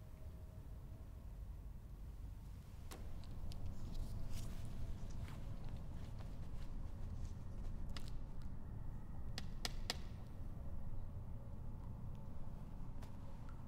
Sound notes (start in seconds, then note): none